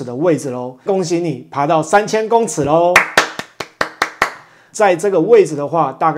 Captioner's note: applause